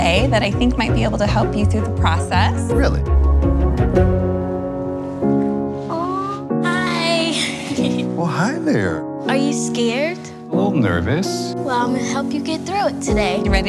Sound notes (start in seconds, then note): 7.1 laughs